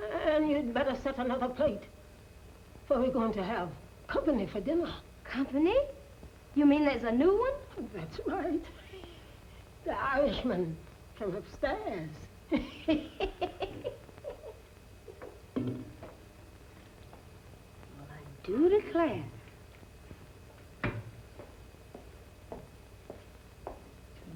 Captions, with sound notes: And you'd better set another plate, for we're going to have company for dinner. Company? You mean there's a new one? That's right. The Irishman from upstairs. [cackling] Well I do declare.